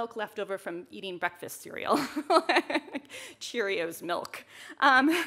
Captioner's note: chuckles